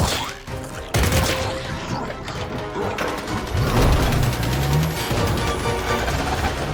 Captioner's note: grunting